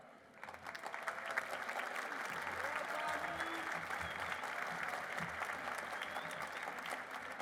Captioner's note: applause